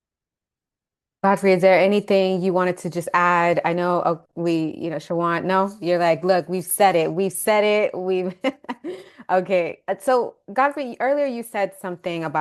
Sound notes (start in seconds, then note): 8.8 laughing